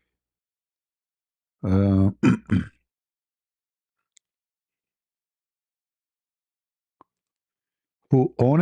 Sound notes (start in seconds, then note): 1.6 berdehem